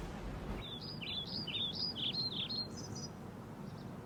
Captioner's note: birds chirping